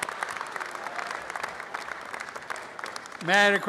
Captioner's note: applause and cheering; applause